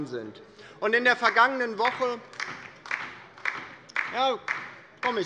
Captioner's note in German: Beifall bei der LINKEN - Zuruf